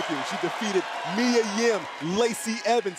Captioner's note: cheers and applause